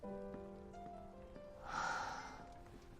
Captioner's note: sighs